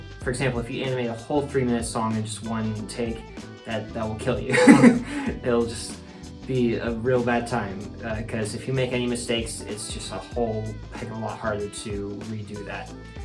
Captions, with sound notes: If you animate a whole 3 minute song in just one take... That, that'll kill you [laugh's in experience] It'll just be a real bad time 'cuz if you make any mistakes it's just a whole heck of a lot harder to redo that.